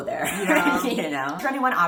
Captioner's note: laughing